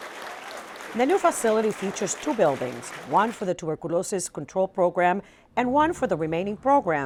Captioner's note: cheers and applause